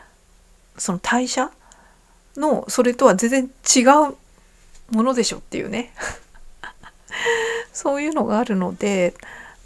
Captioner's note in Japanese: 笑い; 息をのむ音